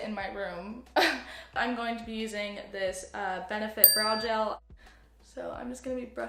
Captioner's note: ding